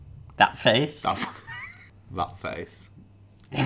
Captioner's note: laughs